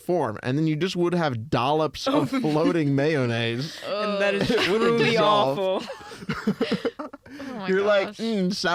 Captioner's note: laughs